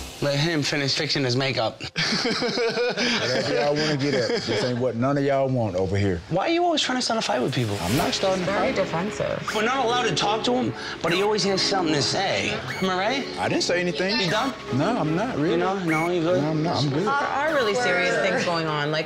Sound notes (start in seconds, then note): 1.9 laughs